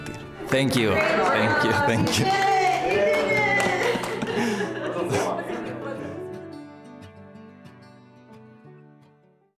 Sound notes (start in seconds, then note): 3.4 clapping; 3.8 laughter